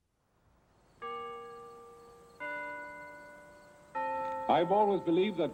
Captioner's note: bells ringing